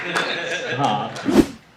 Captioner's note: audience laughter; applause